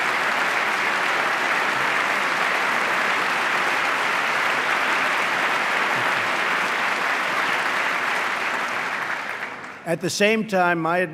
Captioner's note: applause